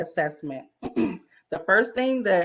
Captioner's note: clears throat